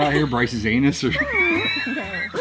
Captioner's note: laughing